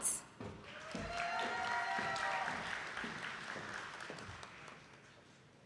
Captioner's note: attendees clapping